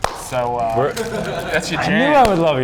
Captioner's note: claps